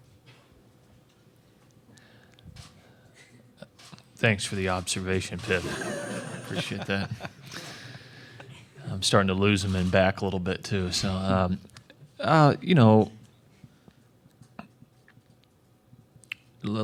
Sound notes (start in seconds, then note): 8.4 laughter